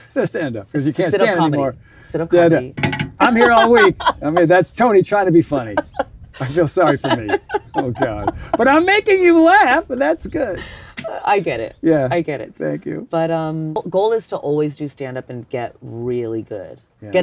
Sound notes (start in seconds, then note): 8.0 laughs